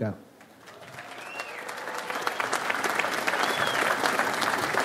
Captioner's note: audience applauds